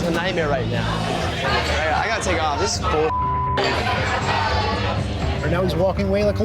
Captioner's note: beep